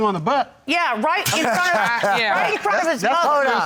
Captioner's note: laughing